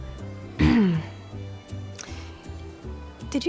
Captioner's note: clears throat